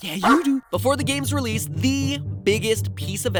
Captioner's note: natural voice